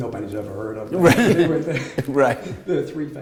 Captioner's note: laughter